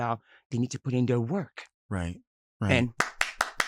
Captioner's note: clapping